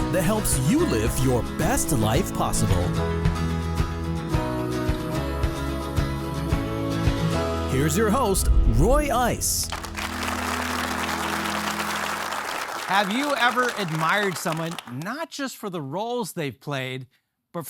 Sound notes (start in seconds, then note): 4.0 uplifting music; 9.6 audience applauding